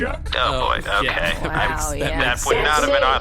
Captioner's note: everyone makes dismayed noises